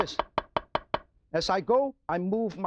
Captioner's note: knife clangs